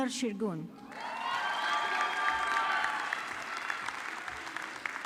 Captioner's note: audience clapping